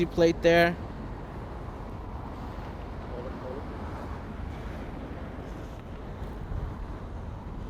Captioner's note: street Sounds